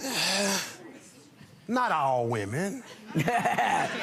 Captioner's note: sighs; laughs